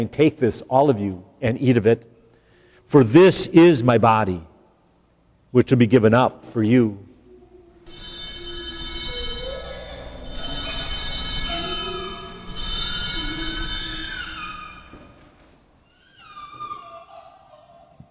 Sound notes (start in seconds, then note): 7.8 bells ringing